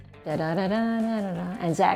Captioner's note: humming